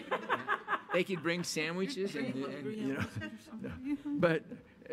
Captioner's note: laughing